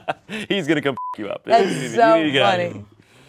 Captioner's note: laughs; beep